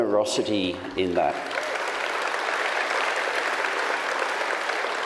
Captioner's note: audience applauds